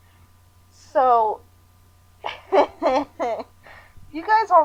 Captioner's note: agonizing laughter